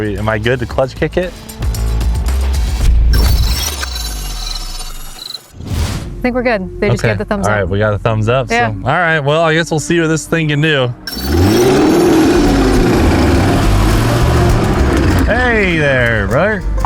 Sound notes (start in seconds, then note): 3.0 electronic chirping; 11.0 engine revving